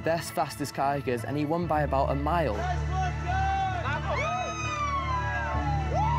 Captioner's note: cheering excitedly